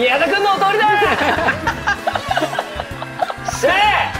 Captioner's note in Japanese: 笑い